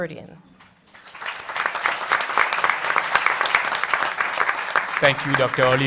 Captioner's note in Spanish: Aplausos